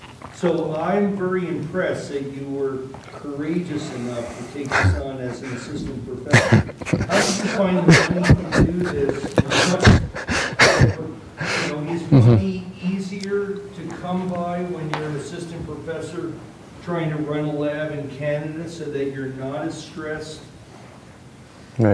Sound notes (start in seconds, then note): 8.4 laughing